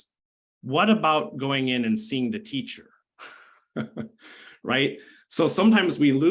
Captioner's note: laughs